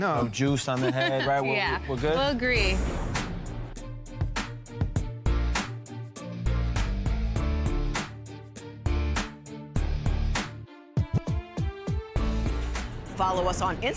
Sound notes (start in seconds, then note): 0.7 laughs; 10.1 upbeat rock music